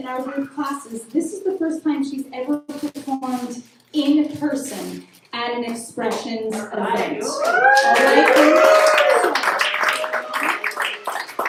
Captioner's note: applause